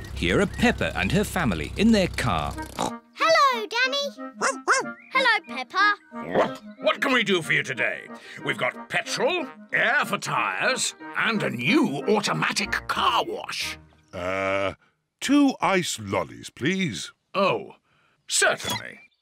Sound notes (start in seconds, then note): 2.7 snorts; 4.4 barks; 6.1 barks